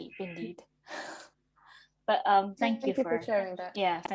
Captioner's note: chuckles